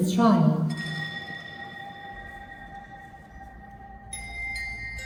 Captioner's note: bell Ringing